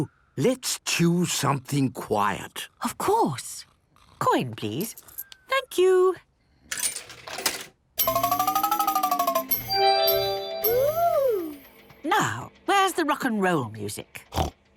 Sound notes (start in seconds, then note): 8.0 beeps and chimes